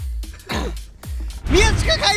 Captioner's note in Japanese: 咳払い